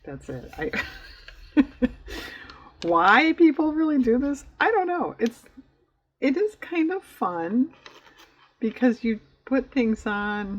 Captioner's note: laughs